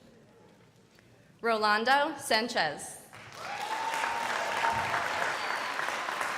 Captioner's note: crowd applauding